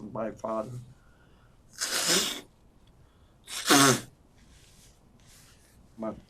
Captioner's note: wiping nose